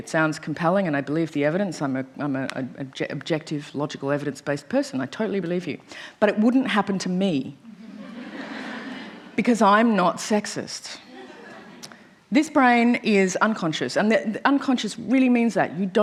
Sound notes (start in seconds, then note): 7.8 laughter